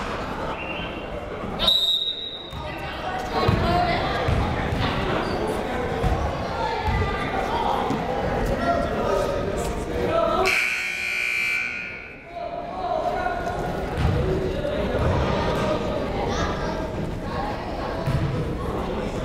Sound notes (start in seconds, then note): 1.6 whistle shrills; 10.4 buzzer rings